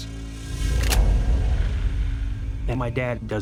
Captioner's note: rifle cocks